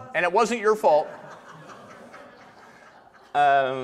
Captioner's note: audience laughter